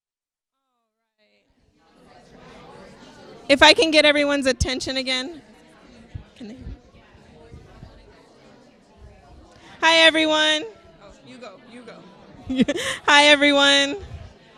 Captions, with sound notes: All right. (people talking) If I can get everyone's attention again. (people talking) Can they hear me? Hi, everyone. Oh, you go, you go. (laughs) Hi, everyone.